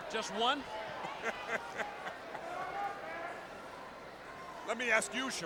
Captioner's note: Jesse laughs